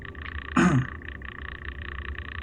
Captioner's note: coughs